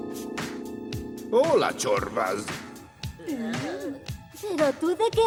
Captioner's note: russian accent